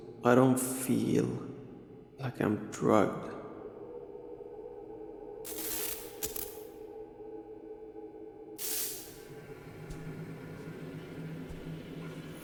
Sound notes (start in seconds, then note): 5.4 suspenseful music; 5.5 lights buzzing